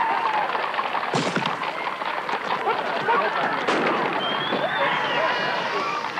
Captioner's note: tear gas canisters exploding